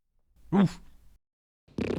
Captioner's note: farts